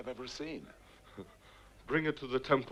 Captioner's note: Nepakin chuckles